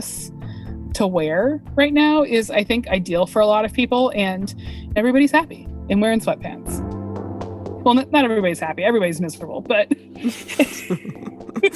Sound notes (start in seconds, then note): 10.2 laughs